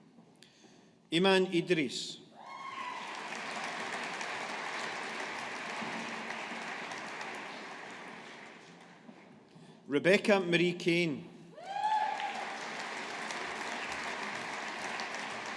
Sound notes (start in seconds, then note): 2.6 audience applauding; 11.7 audience applauding